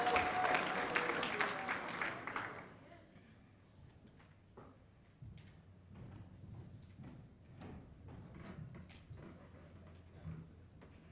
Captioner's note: cheers and applause